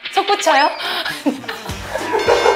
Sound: haha

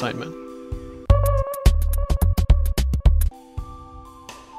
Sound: even More Confused Sound Effect

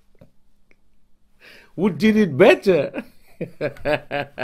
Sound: laughing

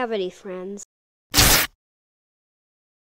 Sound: snap

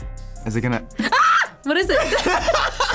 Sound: laughs; screams; both laugh

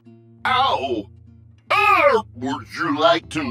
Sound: shouts in pain

